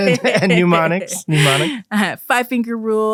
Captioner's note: both laughing